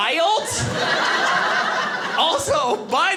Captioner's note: audience laughing